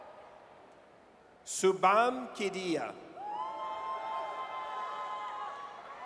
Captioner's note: audience cheers